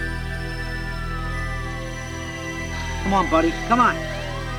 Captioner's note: sirens wailing